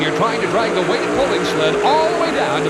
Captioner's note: voiceover; audience cheering